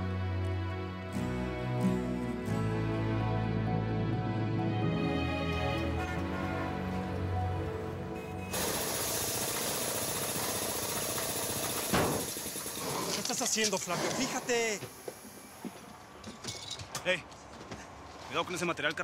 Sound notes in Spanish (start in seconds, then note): 4.8 sonido de maquinaria